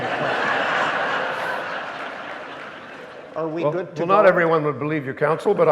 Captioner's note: audience laughing